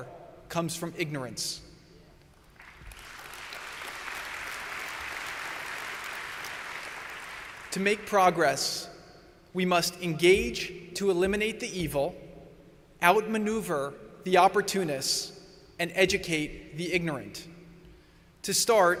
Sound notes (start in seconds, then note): 5.4 applause